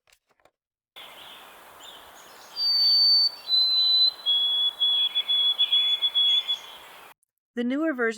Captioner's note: white-Throated Sparrow song with the doublet ending